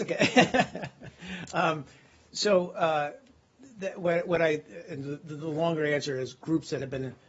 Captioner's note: laughter